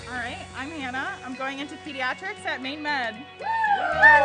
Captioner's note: cheering